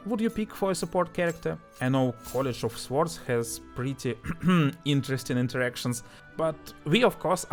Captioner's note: cough